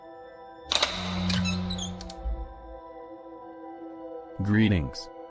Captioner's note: lock clicks; door squeaks